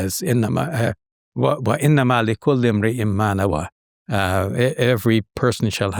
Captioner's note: speaking Arabic